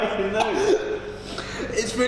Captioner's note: coughing